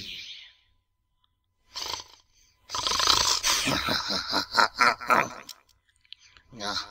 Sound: snort Snort Giggle

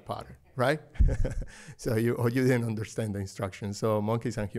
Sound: laughter

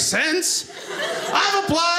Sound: audience laughing

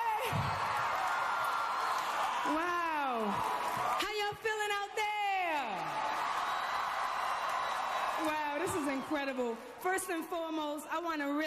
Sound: cheers and applause

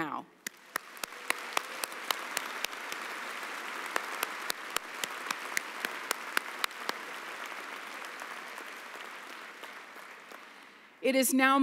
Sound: applause

